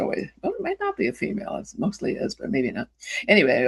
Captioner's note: none